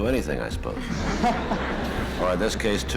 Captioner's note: laughter